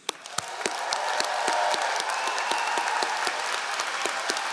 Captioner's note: all applauding